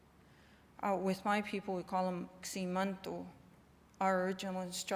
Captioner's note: non-english